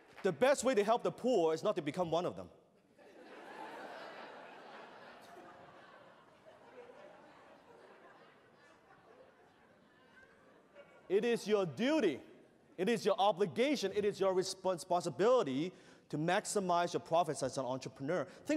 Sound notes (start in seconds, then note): 2.8 laughter